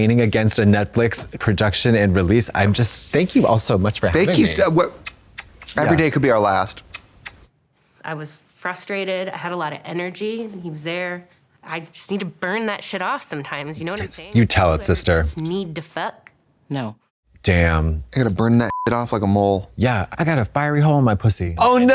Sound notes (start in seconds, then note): 18.7 beep